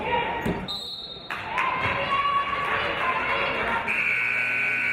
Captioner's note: referee's whistle; buzzer